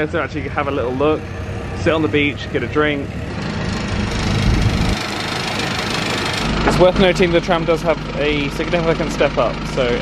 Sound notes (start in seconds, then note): 3.5 tram engines puttering